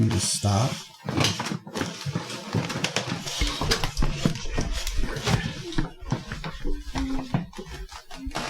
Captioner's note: table creeking, breaking